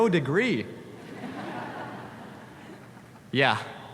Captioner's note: audience laughs